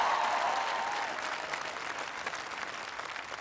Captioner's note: cheering